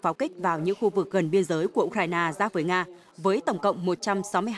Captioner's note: Russian